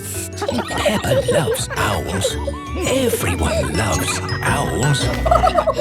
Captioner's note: kids giggling; narrator whispering; laughing